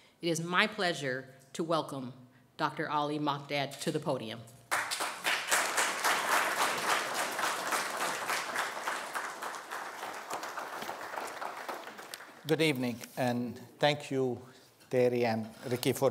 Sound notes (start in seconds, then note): 4.7 applause